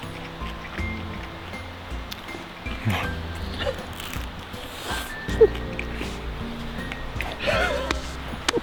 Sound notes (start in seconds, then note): 5.3 laughing